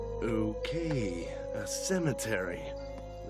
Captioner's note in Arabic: none